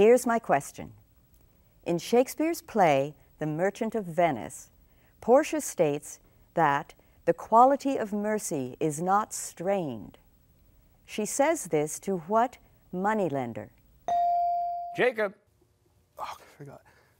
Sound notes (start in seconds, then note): none